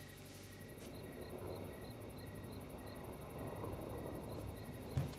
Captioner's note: thunder rumbling; crickets chirping